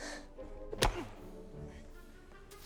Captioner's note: snape grunts